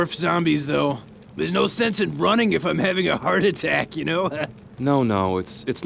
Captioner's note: laughs